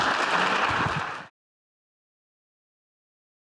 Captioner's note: applause